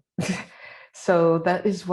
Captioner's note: laughs